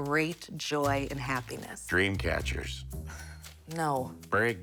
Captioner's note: sighs